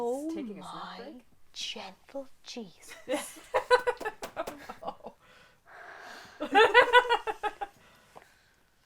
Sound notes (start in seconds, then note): 6.3 Axel sighs with deep exasperation